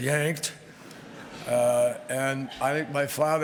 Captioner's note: laughter